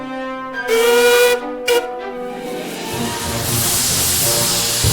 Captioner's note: horn honks; excited music